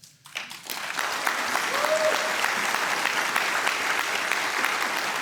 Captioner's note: audience cheering